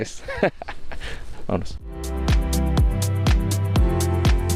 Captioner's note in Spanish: risas